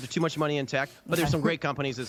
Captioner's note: laughter